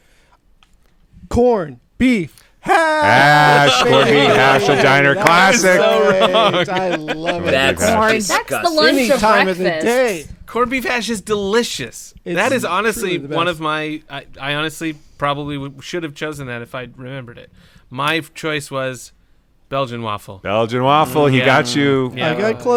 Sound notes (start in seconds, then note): 6.1 laughter